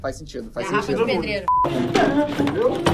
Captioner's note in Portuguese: som de bipe